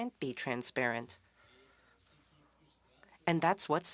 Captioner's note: speaking French